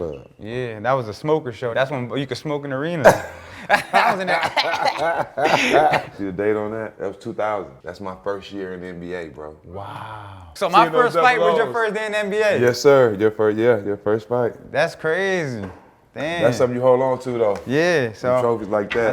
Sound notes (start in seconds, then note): 3.0 coughing; 3.1 both laughing